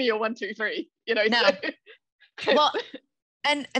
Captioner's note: laughs